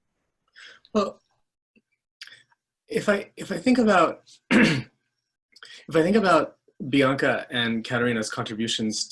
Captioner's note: cough